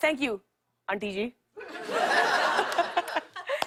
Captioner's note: laughter